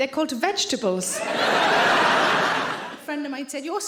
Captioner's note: audience laughing